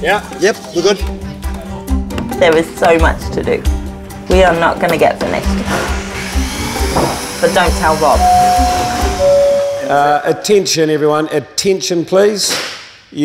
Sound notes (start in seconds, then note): 7.5 intercom chiming